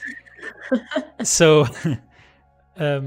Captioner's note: laughs